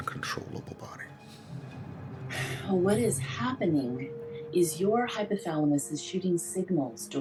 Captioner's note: breathes heavily